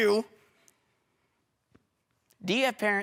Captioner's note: silence